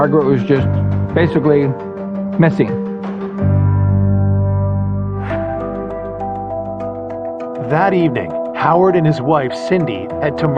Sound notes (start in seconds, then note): 5.2 air whoososhing; 6.7 gentle musisic